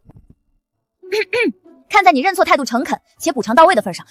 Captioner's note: cough cough